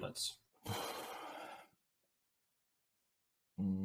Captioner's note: sighs